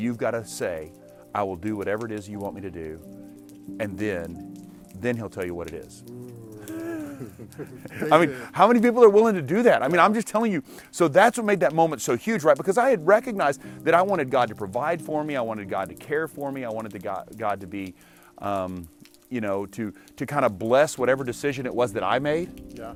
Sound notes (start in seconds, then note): 6.7 laughter